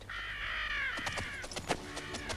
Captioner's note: buzzards squawking; hooves trotting; peaceful music